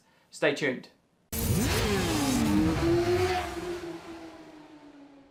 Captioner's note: engine revving